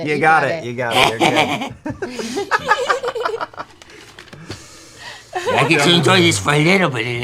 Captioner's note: laughter